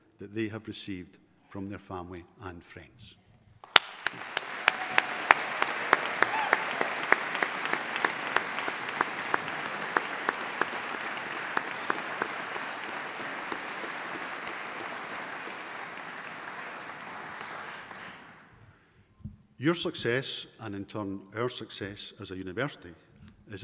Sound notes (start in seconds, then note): 4.7 audience applauding; 4.7 audience cheering